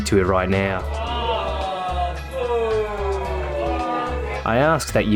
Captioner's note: distant booing